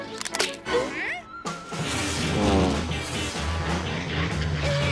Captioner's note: toy cracks; dramatic music; toy plane whirring loudly; scared whine